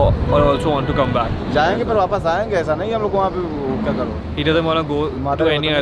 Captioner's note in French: Langue locale